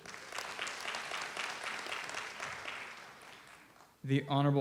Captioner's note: audience applauds